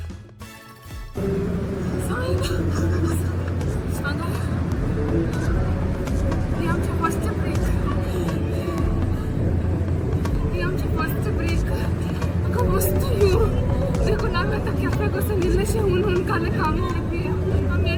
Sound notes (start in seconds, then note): 7.6 breathing heavily